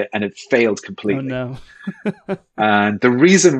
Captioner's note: chuckle